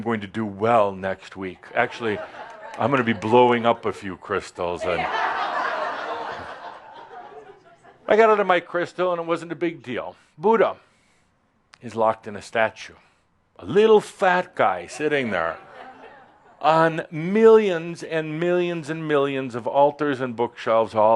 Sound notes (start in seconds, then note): 4.8 laugher